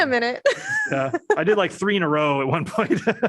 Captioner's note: laughter